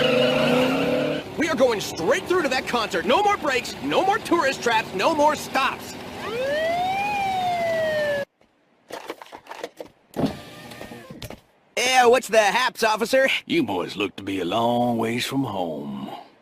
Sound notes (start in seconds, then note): 6.1 police siren